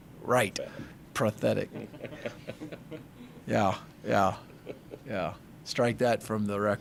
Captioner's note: laughing